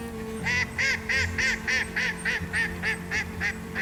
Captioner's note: ducks quacking